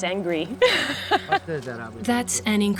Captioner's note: laughs